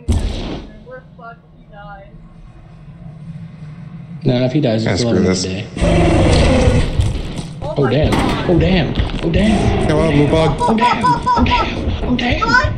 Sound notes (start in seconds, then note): 1.8 wet thump; 5.8 Thumper roars; 5.8 wet thumping; 9.1 laughing